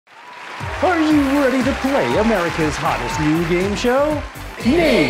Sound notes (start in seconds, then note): 0.0 applause